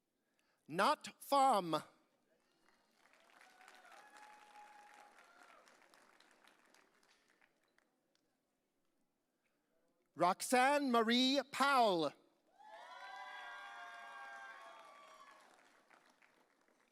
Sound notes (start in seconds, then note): 3.3 audience cheering; 12.6 audience cheering